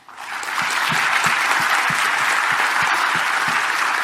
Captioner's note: audience applauding